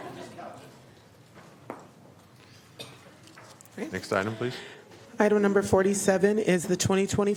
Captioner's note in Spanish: Risas